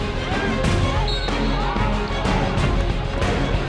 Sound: whistle

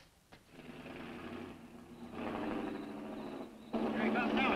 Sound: engine rumbling

